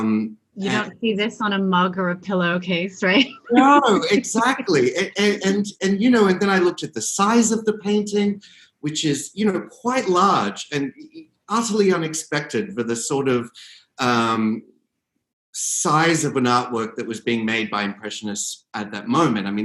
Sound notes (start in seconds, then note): 3.1 laughing